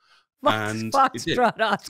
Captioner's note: laughs